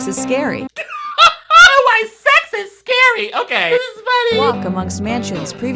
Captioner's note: laughs